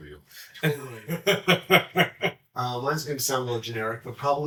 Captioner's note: laughs